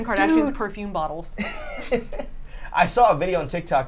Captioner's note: laughs